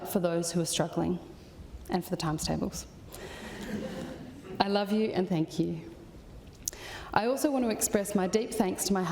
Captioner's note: laughter